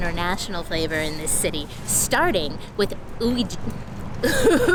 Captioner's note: laughing